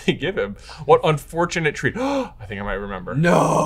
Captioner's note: gasps